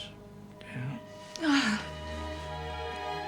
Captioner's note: Rose groans; mournful music